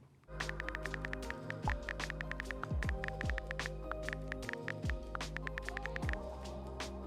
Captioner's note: chill music; typing sounds